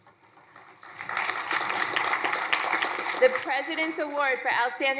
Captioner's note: crowd applauding